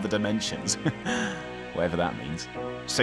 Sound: laughs

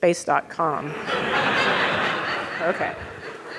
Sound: audience laughing

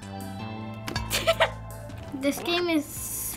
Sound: laughs

